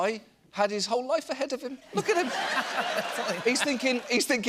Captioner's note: laughter